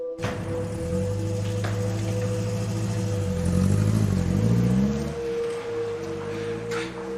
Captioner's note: engine noise